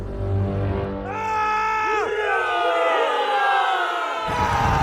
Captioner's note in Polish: okrzyki triumfu